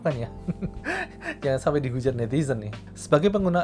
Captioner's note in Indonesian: tertawa